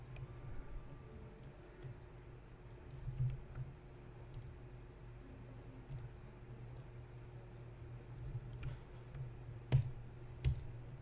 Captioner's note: typing, clicking, waiting